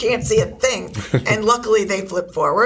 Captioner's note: laughs